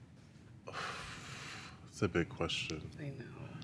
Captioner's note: blows out air